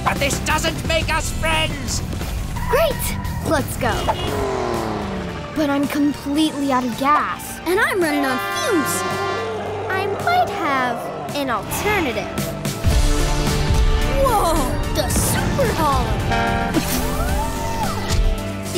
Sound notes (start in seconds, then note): 3.5 horn honks; 7.8 truck horn blares; 16.1 truck horn blares; 16.3 hydraulics whirring